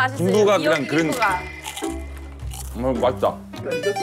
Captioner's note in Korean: 냠냠